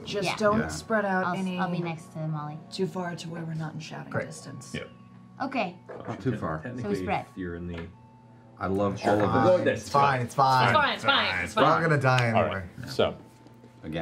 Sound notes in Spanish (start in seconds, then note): none